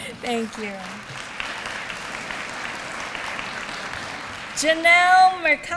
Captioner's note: applause